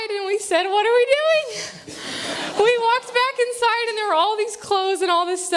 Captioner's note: laughter